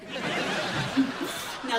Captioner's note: giggle